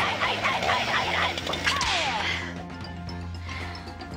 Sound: buzzing sound

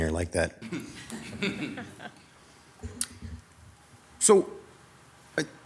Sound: group laughing

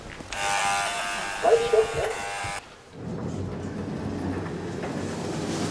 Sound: door buzzer; intercom

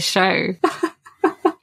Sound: laughs

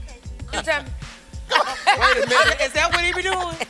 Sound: crew laughs

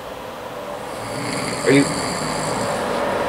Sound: snoring

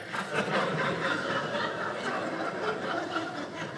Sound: audience laughing

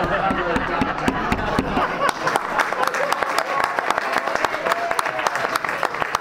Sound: laughing; clapping

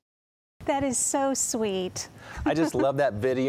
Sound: laughter

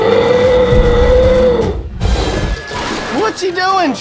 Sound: roaring

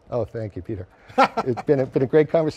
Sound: laughs heartily

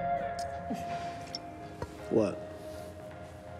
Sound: Jane chuckles

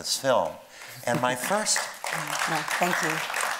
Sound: audience clapping

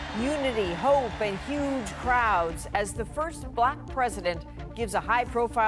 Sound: applause

